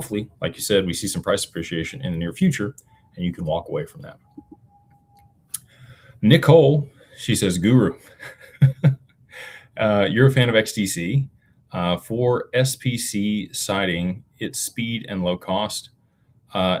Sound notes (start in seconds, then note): 8.1 laughter